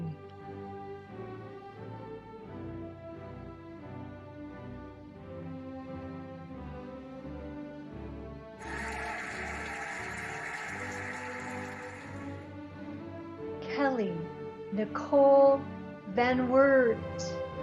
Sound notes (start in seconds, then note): 0.3 cheerful music; 8.6 cheering and applauding